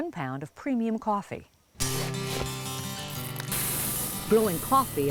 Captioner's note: crunch of scooping beans